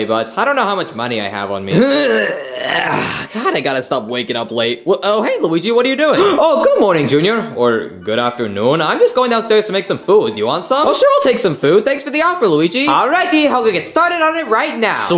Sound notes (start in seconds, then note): 1.7 Junior clearing throat; 6.1 Luigi gasping